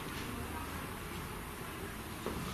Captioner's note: none